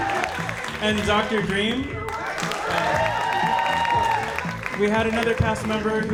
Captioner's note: audience applauding